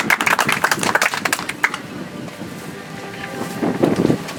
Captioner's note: audience applauds